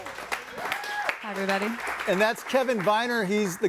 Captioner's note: audience cheers